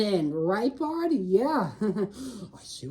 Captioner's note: chuckles nervously